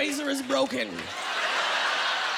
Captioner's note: laughter